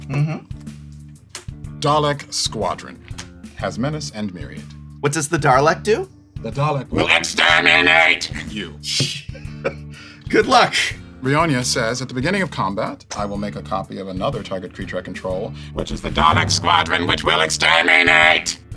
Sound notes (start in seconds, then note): 6.8 Dalek voice; 8.5 regular voice; 10.1 laughing; 15.6 Dalek voice